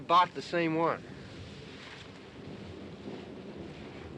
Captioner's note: thunder rumbling